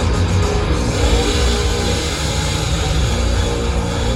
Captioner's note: chainsaw noises